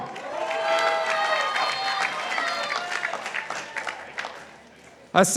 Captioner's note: participants applauding